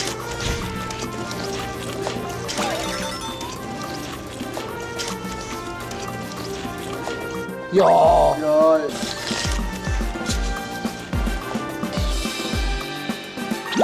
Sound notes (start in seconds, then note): 2.6 nom-nom